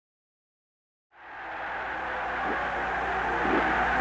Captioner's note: crowd of people cheering